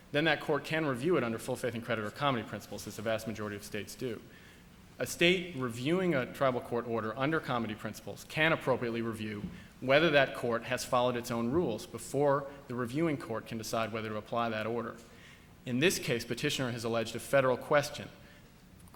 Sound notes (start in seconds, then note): none